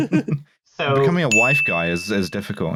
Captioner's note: laughter; ding!